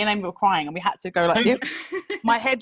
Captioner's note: laughing